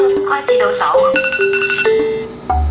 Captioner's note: the timer beeps